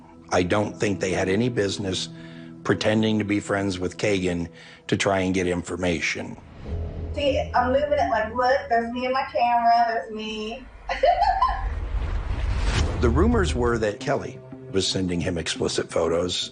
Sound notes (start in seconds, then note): 10.9 laughs